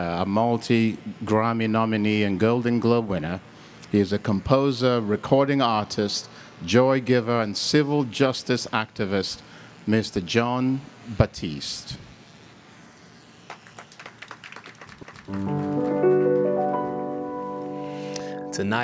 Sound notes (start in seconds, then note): 13.4 audience clapping; 15.3 piano music